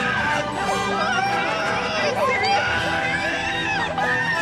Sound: screams

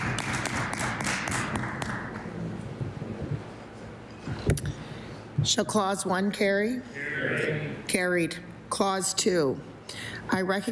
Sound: applause

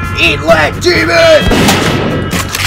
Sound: shotgun fires; shotgun loads

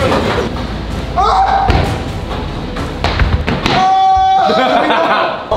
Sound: foot stomping; lads shouting

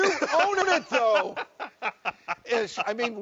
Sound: laughing

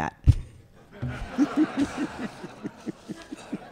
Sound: audience laughs

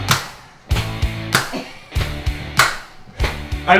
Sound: claps

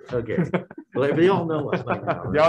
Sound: group laughing

